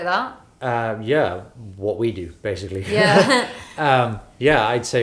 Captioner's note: laughs